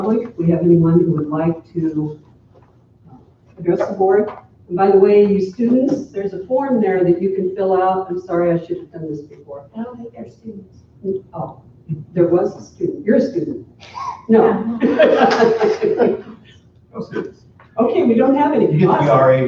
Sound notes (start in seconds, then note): 14.6 laughter; 17.7 attendees chatting